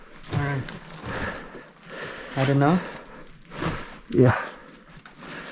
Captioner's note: breathing heavy